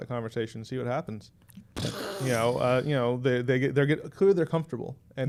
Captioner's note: mimics explosion